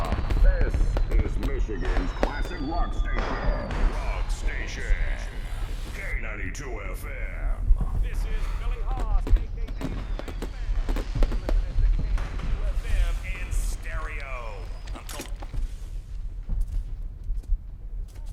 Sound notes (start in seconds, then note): 0.0 radio Announcer; 9.4 fireworks bursting